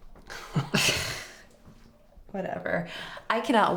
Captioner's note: both chuckle